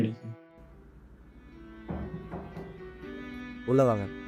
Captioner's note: door knocks